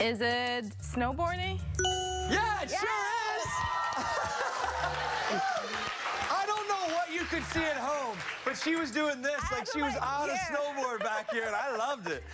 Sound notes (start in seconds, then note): 7.3 laughter; 8.3 cheers and applause; 9.4 laughter; 9.8 cheers and applause; 10.3 laughter